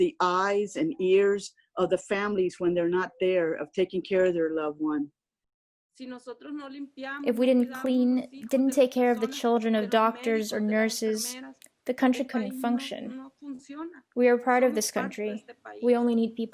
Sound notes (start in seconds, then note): 6.2 through translator